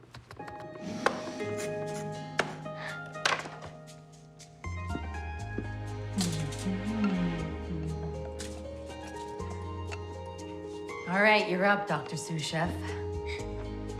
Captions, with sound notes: (bright music) (humming) - Alright, you're up, Dr. Sous Chef.